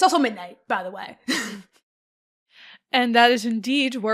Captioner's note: chuckles